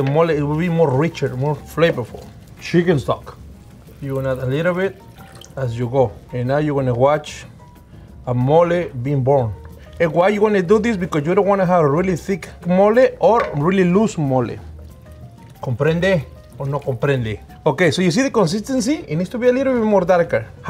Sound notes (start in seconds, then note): 15.7 speaking spanish